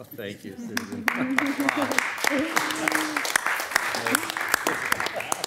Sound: audience applauding

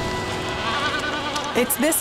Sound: albatross grunting

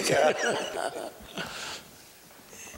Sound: laughter

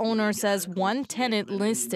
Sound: speaking French

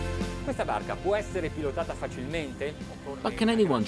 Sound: speaking in foreign language

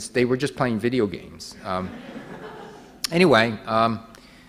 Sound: audience laughing

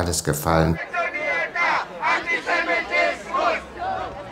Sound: shouts

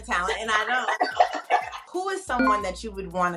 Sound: both laugh

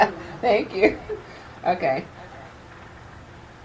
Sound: chuckling

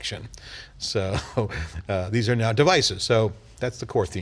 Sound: laughing

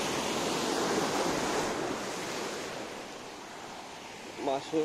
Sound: sea Waves sound

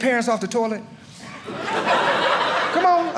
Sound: audience laughing

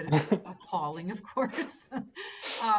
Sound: laughing

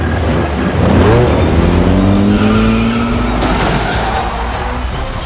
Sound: engine revving

